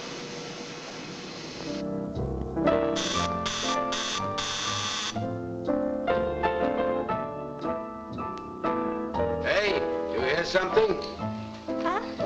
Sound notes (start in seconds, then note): 2.1 gentle music; 2.9 doorbell buzzing; 6.2 gentle music